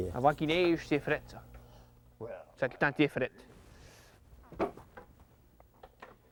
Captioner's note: speaking Acadian French